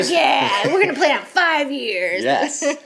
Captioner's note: laughs